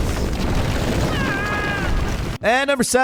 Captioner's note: rocks rumbling; screaming